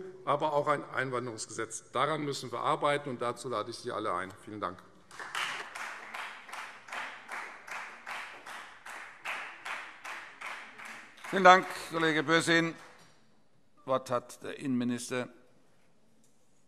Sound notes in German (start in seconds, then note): 7.8 Beifall Freie Demokraten